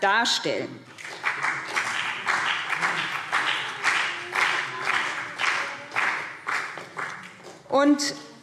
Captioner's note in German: Beifall BÜNDNIS 90/DIE GRÜNEN und CDU